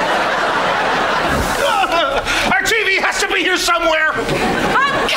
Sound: groaning

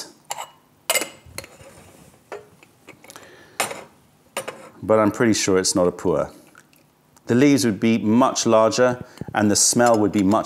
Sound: pouring tea

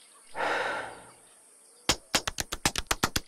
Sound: sighing; slapping

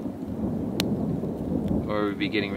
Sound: thunder rumbling

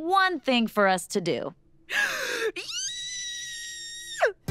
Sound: gasping, squealing

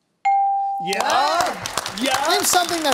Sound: bell dings; applause

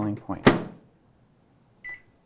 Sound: closing microwave; beeping

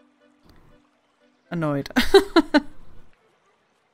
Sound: laughs

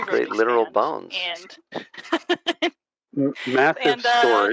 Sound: laughter

